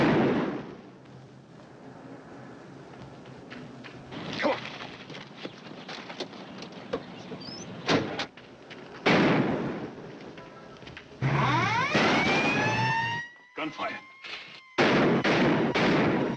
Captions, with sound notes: Come on! [Siren blares] Gunfire.